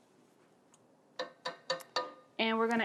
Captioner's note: taps utensil